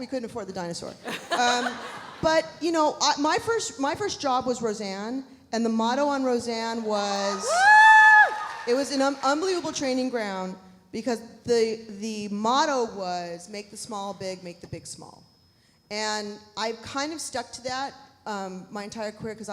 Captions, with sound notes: We couldn't afford the dinosaur. (audience laughs) But my first job was "Roseanne" and the motto on "Roseanne" was- (audience cheering) it was an unbelievable training ground because the motto was make the small big, make the big small. And I kind of stuck to that my entire career